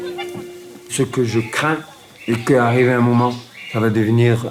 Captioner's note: French spoken audio